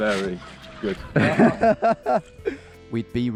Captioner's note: laughing